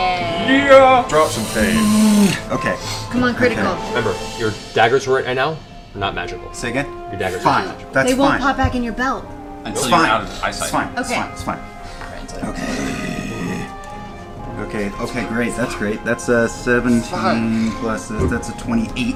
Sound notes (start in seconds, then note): 9.0 gasps